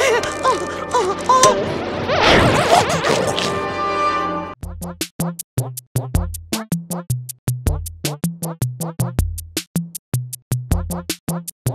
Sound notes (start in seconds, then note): 2.4 chomping